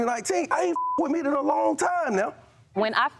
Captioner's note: beep